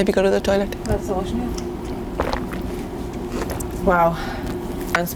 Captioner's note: drinking